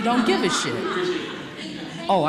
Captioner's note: laughter